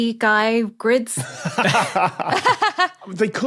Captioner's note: others laughing